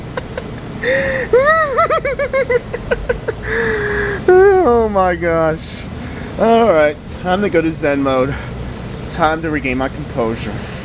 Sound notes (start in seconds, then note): 0.0 laughing Uncontrollably; 3.7 laughing